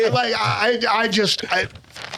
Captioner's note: laughing